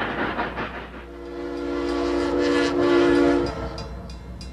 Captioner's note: train hoots